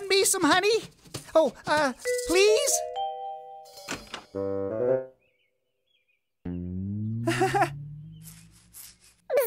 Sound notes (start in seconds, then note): 7.2 nervous giggle